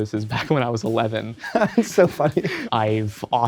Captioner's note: laughing